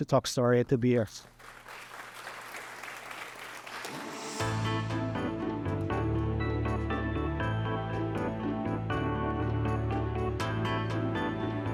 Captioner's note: applause